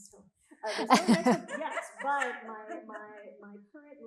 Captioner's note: all laughing